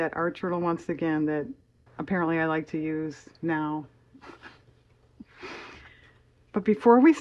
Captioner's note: laughs